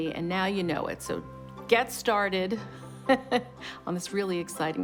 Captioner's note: laughs